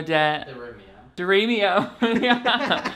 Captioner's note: laughs